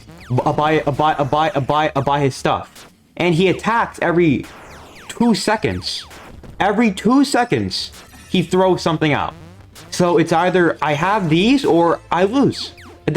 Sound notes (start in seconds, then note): 4.3 Nightmare Fredbear Explodes; 6.1 crying Child Explodes